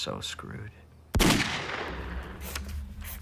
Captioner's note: gunshot